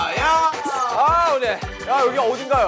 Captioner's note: uhuk